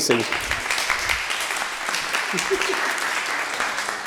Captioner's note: applause